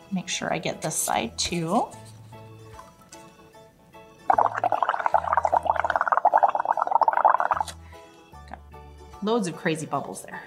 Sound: bubbling sounds

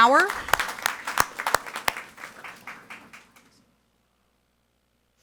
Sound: audience applauding

